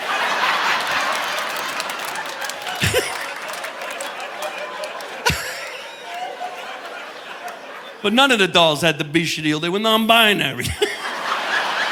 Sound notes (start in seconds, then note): 0.1 audience laughing; 2.8 laughing; 11.3 laughs